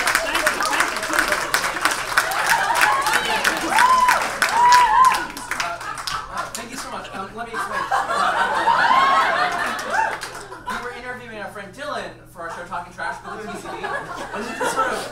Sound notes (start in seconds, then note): 9.1 audience laughs